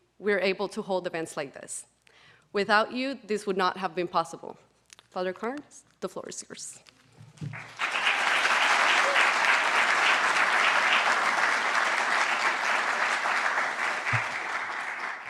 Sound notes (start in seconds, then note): 7.4 audience clapping